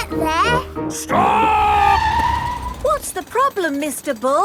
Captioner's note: tires screeching